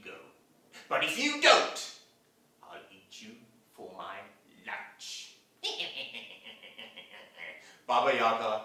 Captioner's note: sound of evil laughing